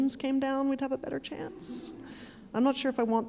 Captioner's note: audience laughing